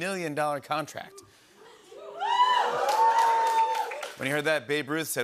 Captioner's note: cheers and applause